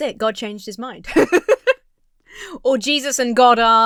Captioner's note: Emma laughs